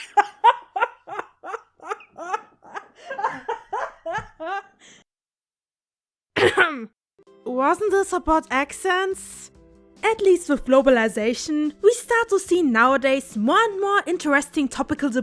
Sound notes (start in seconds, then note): 0.0 too loud laughing; 4.1 cough